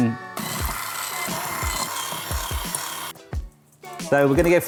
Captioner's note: mellow music; whisk whirring